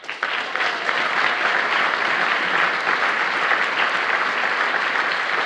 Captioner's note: applause